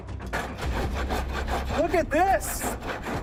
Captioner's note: scraping